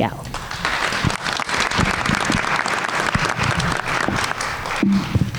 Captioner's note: everyone applauds